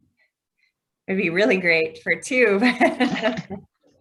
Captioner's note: laughs